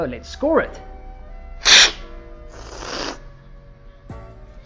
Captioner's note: slurping